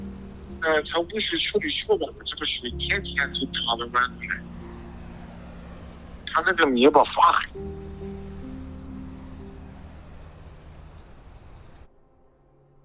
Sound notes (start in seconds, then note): 0.9 speaking in foreign language; 4.9 plane engine humming; 6.6 speaking in foreign language; 7.8 dramatic music; 9.3 plane engine humming